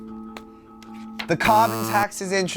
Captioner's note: buzzing